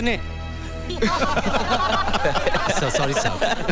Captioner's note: Laughs